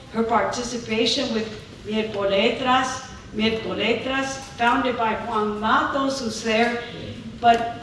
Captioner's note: speaking spanish